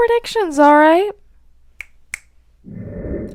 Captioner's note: snap